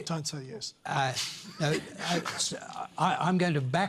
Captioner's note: laughs